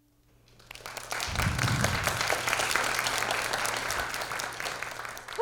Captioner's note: audience applause